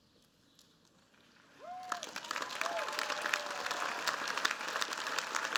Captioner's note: applause